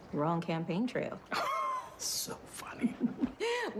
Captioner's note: laughs